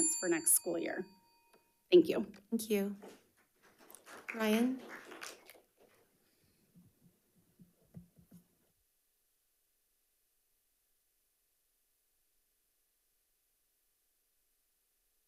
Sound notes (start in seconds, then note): 3.6 attendees clapping